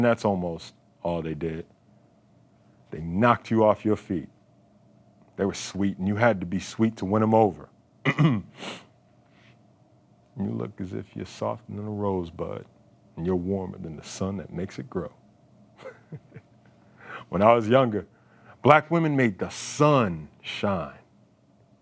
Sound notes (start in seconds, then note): 8.0 throat clearing; 15.8 laughing